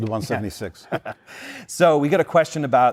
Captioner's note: laughter